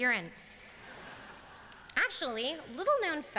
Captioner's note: laughter